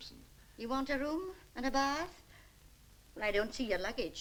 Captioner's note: none